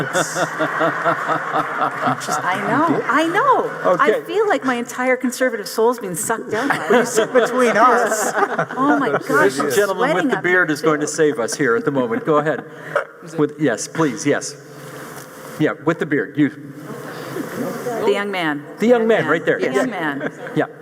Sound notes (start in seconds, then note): 0.0 audience laughing; 9.0 laughs